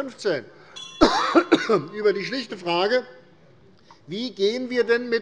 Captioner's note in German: Unruhe - Glockenzeichen des Präsidenten